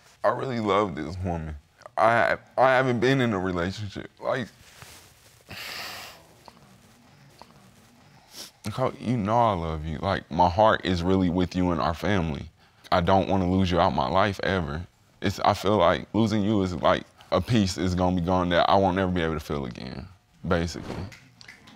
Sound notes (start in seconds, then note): 5.2 sobs